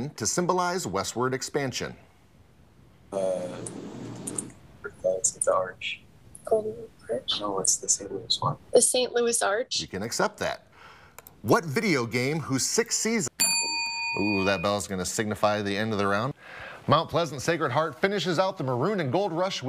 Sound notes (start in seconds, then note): 13.4 bell dings